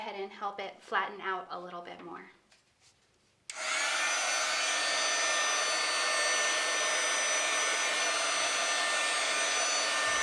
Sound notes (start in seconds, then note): 3.5 embossing tool whirring